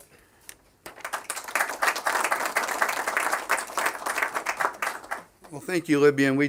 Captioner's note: applause